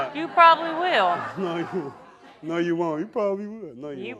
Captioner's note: laughing